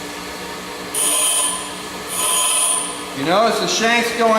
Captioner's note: metal buzzing against grinder